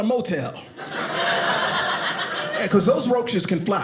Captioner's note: audience laughing